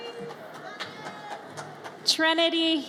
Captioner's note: audience cheers